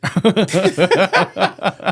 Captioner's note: laughing